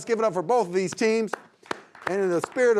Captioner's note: everyone applauds